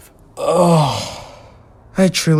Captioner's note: Jerry sighs